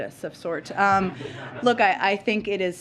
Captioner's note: laughter